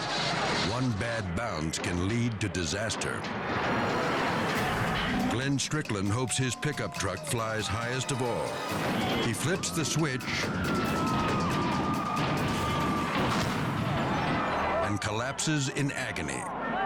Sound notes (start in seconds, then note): 3.5 vehicle thumping; 10.6 crowd cheering